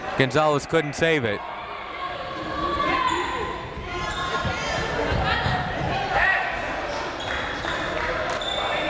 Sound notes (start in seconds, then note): 1.4 crowd members shouting